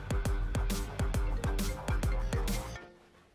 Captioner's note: Phone ringing